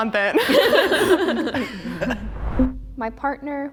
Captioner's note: group laughing